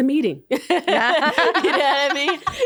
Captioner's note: both laughing